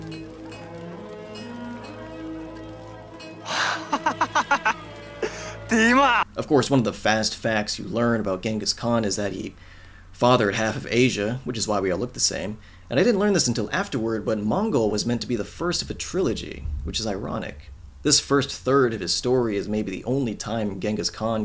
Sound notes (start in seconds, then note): 3.4 laughs